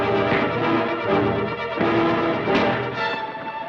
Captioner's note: thud